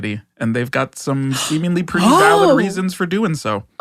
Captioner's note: gasps